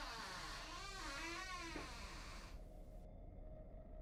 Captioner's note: door creaks opened; foot steps into room, door creaks opened wider; tense music